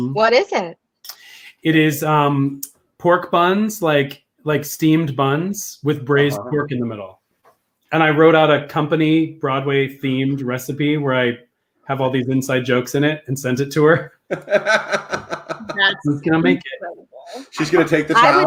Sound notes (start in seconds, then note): 14.2 laughing; 14.2 laughs